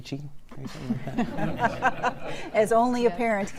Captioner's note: laughter